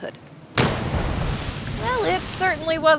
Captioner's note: splash